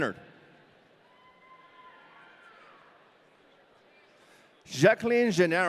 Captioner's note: audience cheering